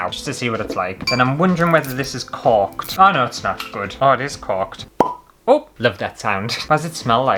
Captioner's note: pop!